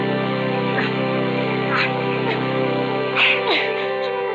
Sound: heaving breathing

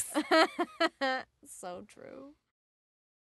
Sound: laughs

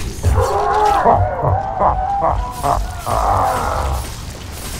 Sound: laughs

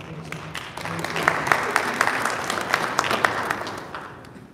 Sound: audience applauding

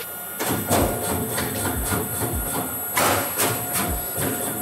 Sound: machine knocking

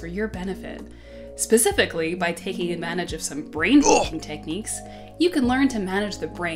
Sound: grunt

